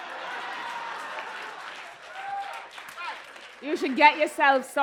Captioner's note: cheers and applause